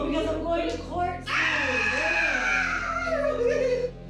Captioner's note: inmate yells excitedly, laughing